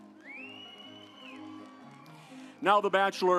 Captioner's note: audience applauds